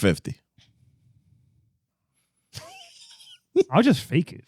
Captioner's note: laughing